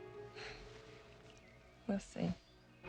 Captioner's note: laughs